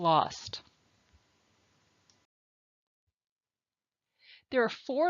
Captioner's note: silence